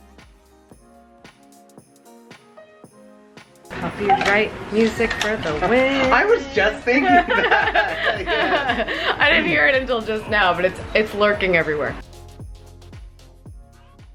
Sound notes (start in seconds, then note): 6.9 laughs